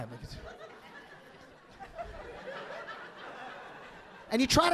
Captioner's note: audience laughing